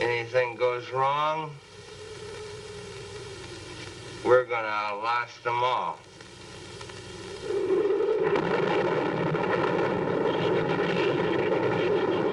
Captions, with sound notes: Anything goes wrong, we're going to outlast them all. [THUNDER]